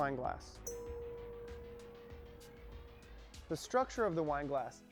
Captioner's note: ding